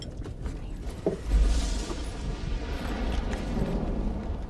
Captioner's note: thunder & lightning